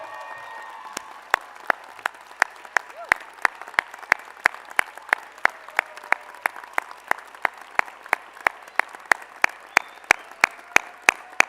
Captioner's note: applause